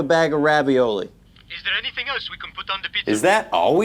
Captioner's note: phone